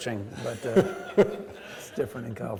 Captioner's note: laughing